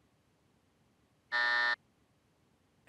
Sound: buzzer

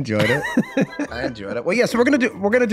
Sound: Charlie laughing

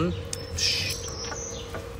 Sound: shush

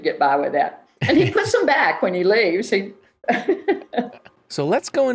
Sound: chuckles softly

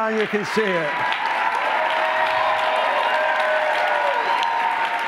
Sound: cheering and applause

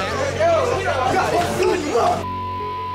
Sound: shouting

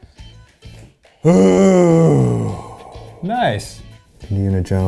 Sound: Ned sighs

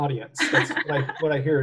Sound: laughs

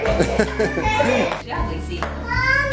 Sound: laughing

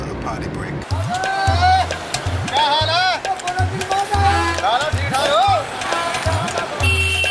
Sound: upbeat ethnic music; yells in foreign language

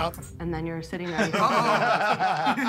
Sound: Jokers laughing

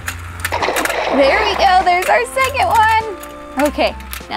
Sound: water splashes

